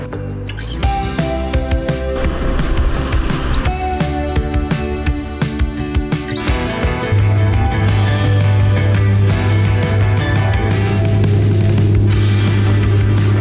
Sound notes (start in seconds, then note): 0.3 upbeat music; 6.5 plane engine roaring; 7.3 upbeat music